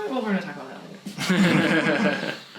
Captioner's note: both laugh